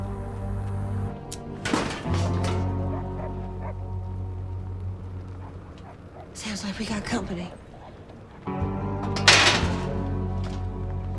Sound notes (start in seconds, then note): 1.6 clanking; 2.7 dog barking in distance; 5.4 car approaching